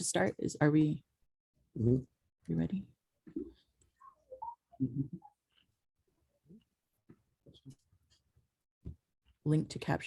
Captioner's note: whistles softly